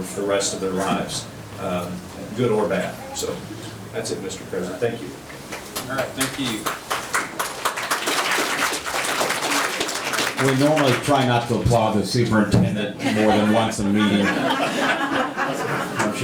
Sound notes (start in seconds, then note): 8.4 audience clapping; 13.0 audience laughing